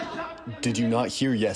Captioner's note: through translator